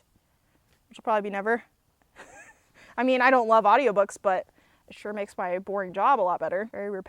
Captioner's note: laughs